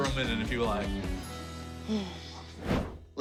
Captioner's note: sighs